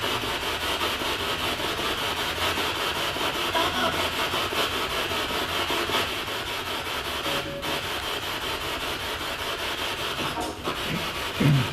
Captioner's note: radio noise from the spirit box